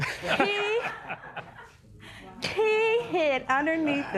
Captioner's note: laughter